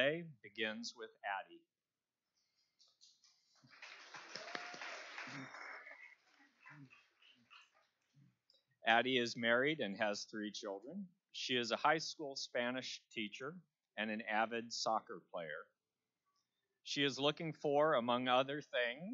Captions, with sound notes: assembly line today begins with Addi. (Applause). Addi is married and has three children. She is a high school Spanish teacher and an avid soccer player.